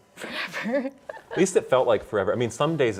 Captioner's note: laughs